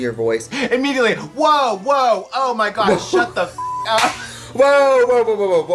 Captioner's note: beep